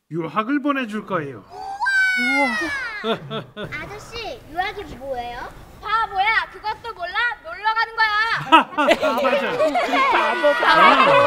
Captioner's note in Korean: 하하하~~